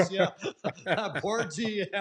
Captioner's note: laughter